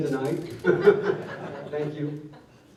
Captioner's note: laughter